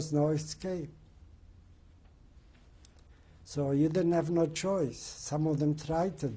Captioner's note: pauses for 3 seconds